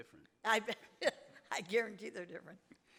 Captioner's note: laughs